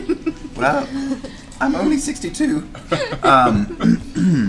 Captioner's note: voice breaks